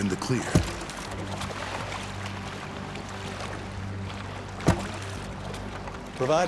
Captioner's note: water splashing